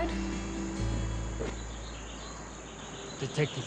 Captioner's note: birds chirp